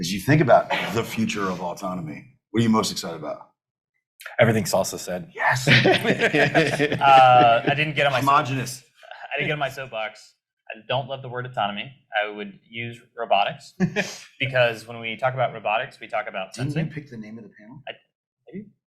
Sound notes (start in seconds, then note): 5.5 panelists laugh